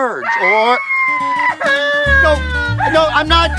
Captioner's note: girl screams